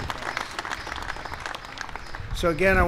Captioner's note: applause